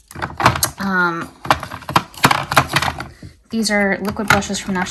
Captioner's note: items thudding